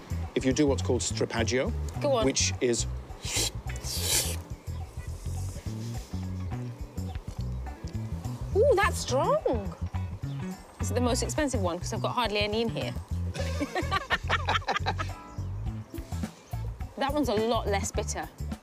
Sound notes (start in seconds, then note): 3.2 slurp; 3.2 slurps; 13.3 laughs